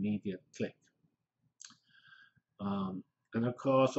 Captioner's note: pause